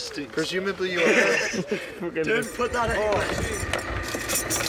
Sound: laughs

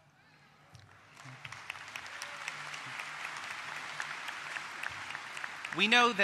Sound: applause

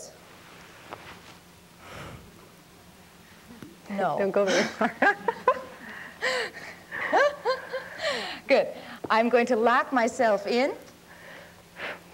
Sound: laughs

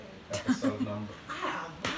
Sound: laughing

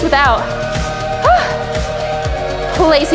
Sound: exhales

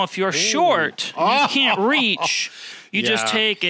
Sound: laughs

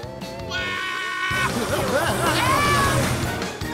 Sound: screaming

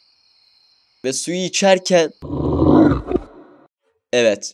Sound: monster sound

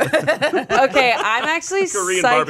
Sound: everyone laughs

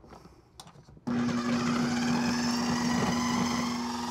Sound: processor whirring

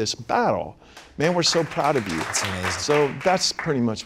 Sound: applause

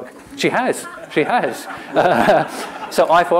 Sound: laughter

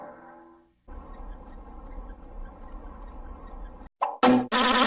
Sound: cartoon sounds continuing still

